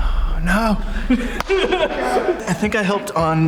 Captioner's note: clap and Laughing